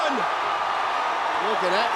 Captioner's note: crowd cheers